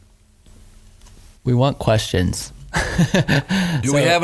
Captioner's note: laughing